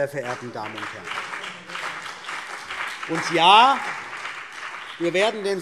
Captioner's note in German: Beifall CDU und BÜNDNIS 90/DIE GRÜNEN